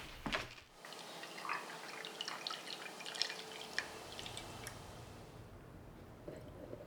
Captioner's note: coffe pouring